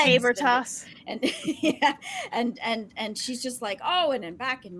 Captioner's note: laughs